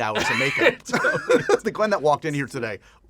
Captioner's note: laughter